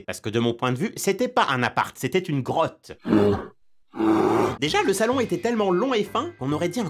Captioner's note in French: ours qui grogne